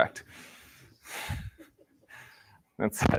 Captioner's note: laughter